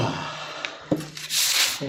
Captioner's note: sighing